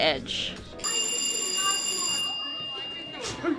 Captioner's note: bells ring